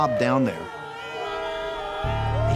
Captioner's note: whistles blowing, car horns honking